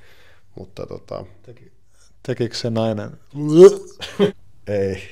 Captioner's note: vomit sound effect